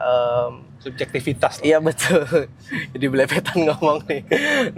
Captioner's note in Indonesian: tertawa